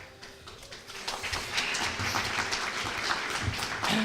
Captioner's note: applause